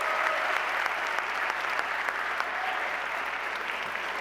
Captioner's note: cheers and applause